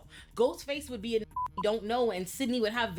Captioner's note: beep